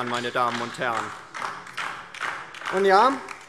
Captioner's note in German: Beifall DIE LINKE